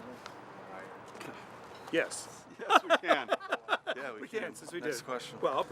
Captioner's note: laughing